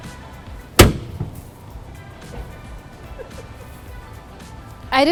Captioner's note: frunk slamming